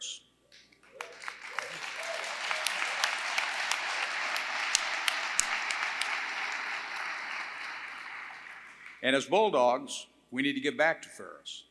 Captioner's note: applause